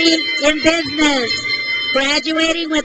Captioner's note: crowd cheers